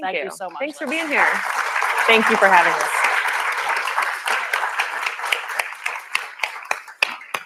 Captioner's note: applause